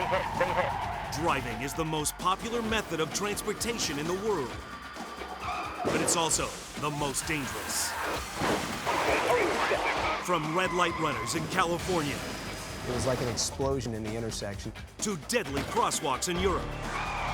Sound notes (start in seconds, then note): 8.6 vehicles thudding; 16.4 tires screeching